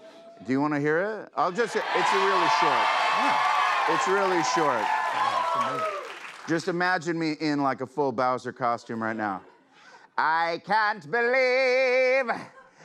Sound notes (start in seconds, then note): 1.5 cheers and applause